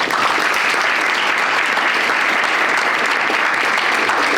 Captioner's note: audience applauding